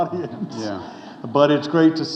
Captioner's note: audience chuckling